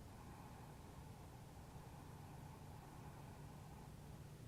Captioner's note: loud breathing